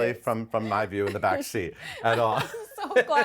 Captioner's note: laughs